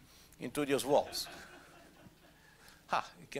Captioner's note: laughter